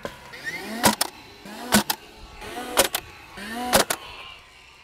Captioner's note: staple gun roaring